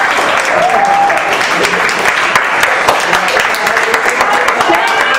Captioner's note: applause; more applause